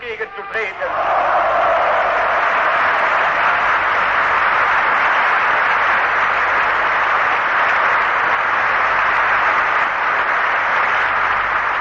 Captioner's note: applause